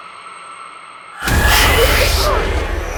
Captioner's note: hissing